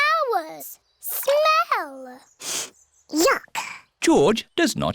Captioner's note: sniffs